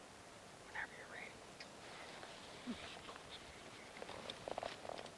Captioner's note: hunters whispering